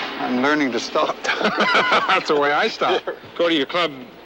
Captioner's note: both laughing